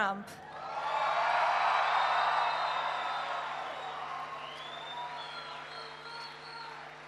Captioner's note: applause